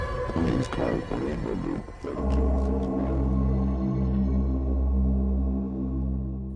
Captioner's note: mutters